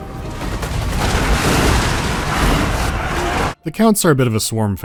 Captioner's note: heavy impacts of massive beasts crashing into huddled infantry